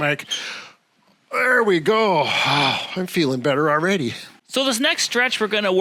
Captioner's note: sighs